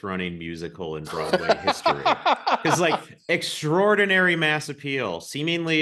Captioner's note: laughs